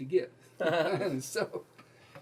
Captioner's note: laughing